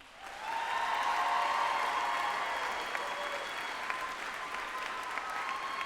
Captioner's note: group applauding and cheering